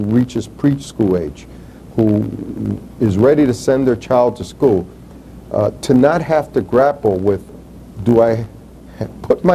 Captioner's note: chuckles